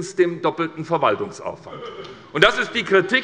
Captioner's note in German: Heiterkeit und Zuruf des Abg